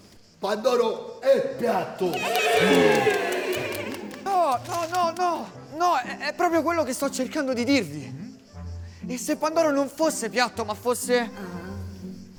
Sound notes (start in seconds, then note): 2.0 everybody exulting